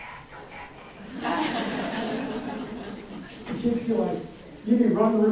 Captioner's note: audience laughs